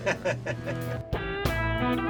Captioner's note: laughs; slide guitar music